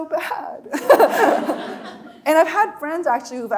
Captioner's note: laughing; audience laughing